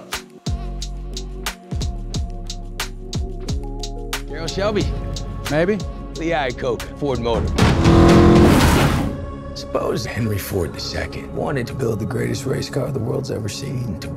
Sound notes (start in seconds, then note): 0.0 rhythmic music; 7.6 engine revving